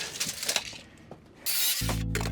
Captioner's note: saw whirring; tape measure clicking